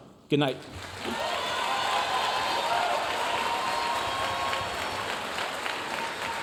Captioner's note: audience cheering and applauding